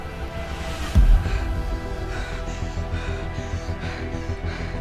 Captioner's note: Scarlet panting